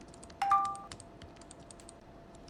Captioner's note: sounds of a overheating computer, clicking and typing, from the left; notification sound